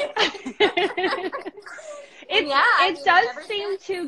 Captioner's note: both laughing